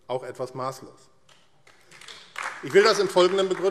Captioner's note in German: Beifall AfD